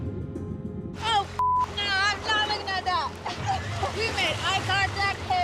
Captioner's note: pensive music; beep